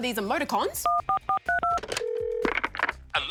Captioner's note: buttons beep, line rings